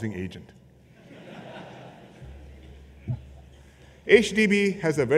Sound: laughter

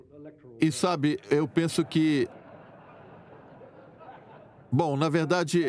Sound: audience laughing

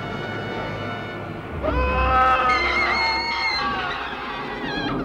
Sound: Addie shrieks; Steven screams

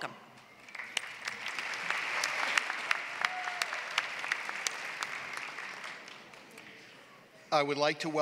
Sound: applause

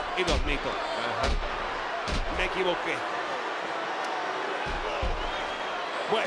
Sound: applause

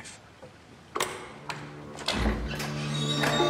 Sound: door opens

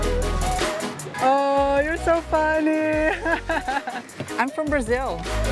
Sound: laughs

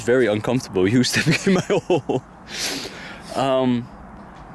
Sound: laughs

